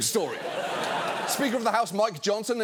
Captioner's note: studio audience laughs